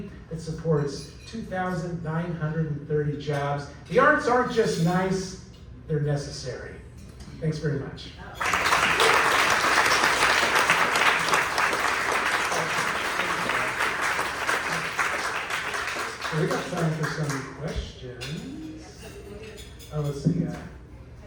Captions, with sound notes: It supports 2,930 jobs. The arts aren't just nice they're necessary. Thanks very much. (clapping) We've got time for some questions. Test, test.